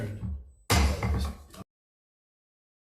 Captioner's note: gavel bangs; silence